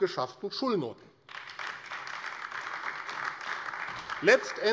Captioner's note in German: Beifall AfD